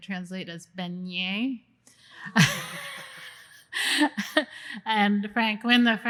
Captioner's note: laughter